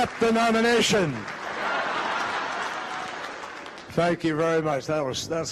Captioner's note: crowd laughing